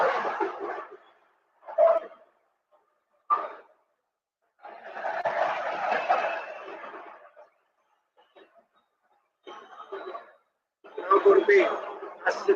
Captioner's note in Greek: Χειροκρότημα